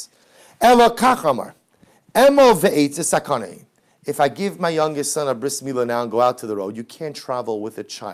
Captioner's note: Hebrew